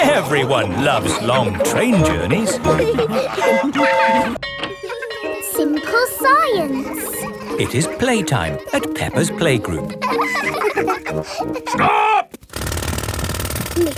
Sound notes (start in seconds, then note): 3.4 train whistle toots; 4.3 bell tolling; 4.3 children laughing; 10.3 children laughing